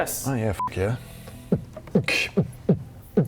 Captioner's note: celebratory beat boxing